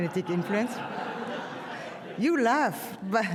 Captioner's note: audience laughs